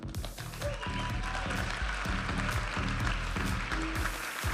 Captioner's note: audience applauding and cheering; vibrant music